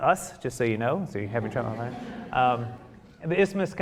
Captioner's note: audience chuckling